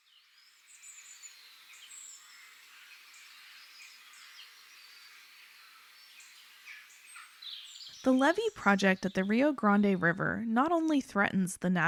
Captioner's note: birds Whistling